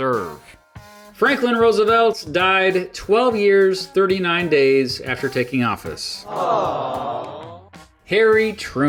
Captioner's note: awww sound effect